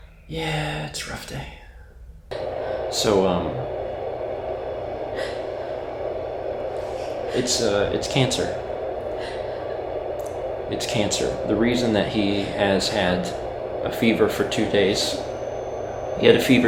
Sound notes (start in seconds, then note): 5.2 trying to hold back tears